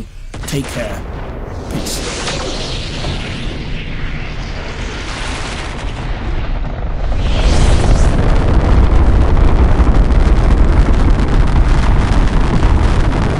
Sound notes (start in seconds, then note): 2.1 rocket launching